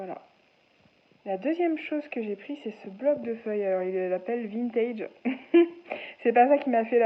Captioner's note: laughs